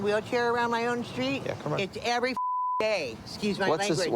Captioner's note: beep